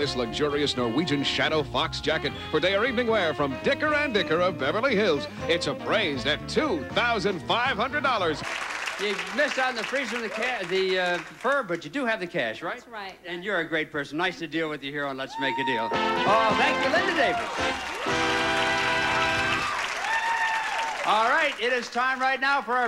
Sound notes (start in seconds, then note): 8.4 audience applauding; 18.1 audience applauding